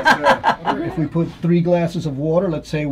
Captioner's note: laughing